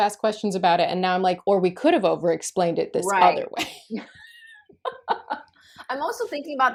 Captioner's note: laughter